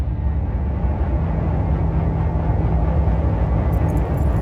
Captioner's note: electric humming